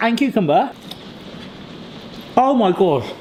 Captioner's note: rain pattering on skylight